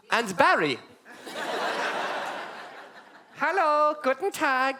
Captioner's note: audience laugh